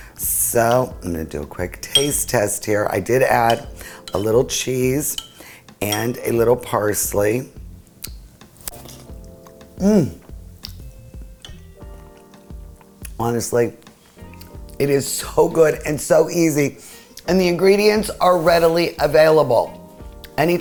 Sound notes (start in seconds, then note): 8.7 slurps